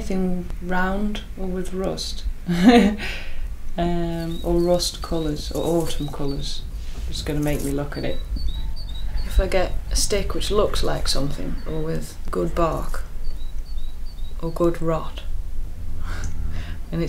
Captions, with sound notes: Anything round, or with rust, [Laughs] or rust colours, or autumn colours, it's going to make me look at it a stick which looks like something, or with good bark, or good rot,